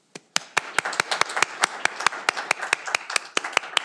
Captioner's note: audience applauding